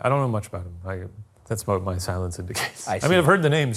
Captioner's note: chuckles